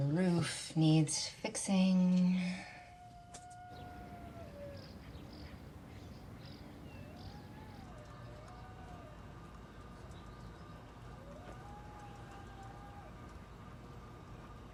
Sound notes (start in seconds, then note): 3.3 coyote howling in distance; 8.2 howling continues